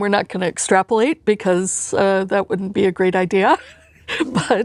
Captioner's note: laughs